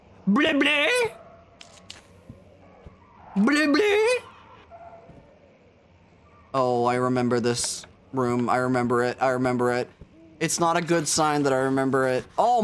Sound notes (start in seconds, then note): 4.2 dog noises echoing